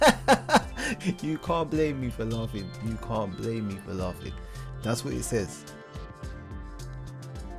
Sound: laughing

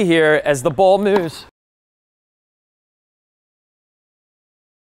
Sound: ball thumps

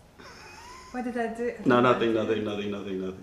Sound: laughter

